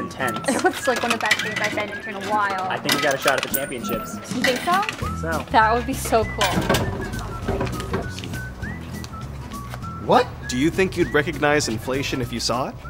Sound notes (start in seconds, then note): 6.5 thud